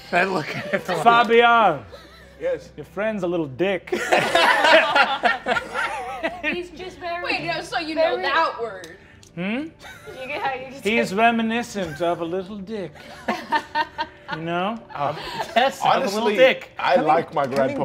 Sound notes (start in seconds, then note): 3.9 all laughing; 13.3 laughing